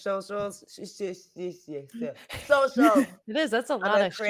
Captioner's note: stammering